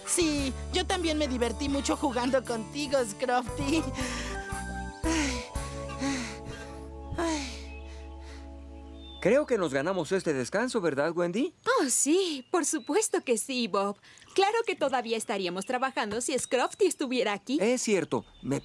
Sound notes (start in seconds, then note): 3.9 panting